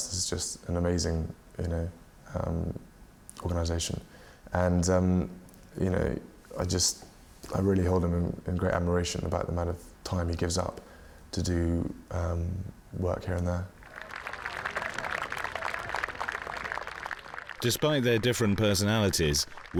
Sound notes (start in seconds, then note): 13.8 applause